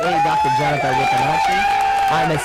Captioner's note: cheers, applause